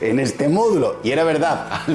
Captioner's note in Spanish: risas